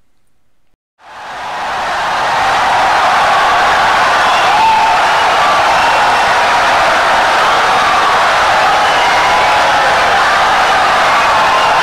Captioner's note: wild applause and cheering for 17 seconds